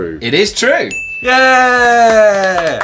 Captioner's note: chink